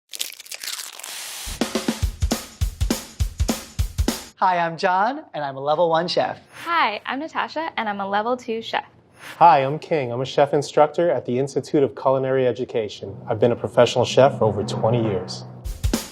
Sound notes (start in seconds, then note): 0.1 crunching; 0.3 sizzling; 2.0 upbeat music; 15.8 upbeat music